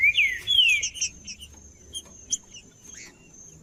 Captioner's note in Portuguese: trinca ferro cantando